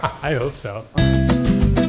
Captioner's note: laughs; cheery Spanish music